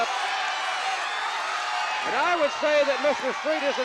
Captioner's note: audience cheering